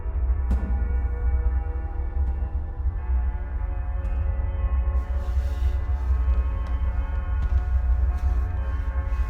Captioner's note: foot steps